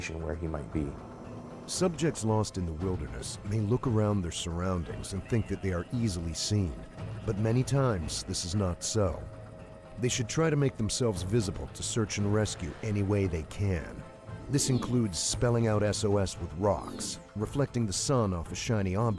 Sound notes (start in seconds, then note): 3.6 voiceover; 10.8 voiceover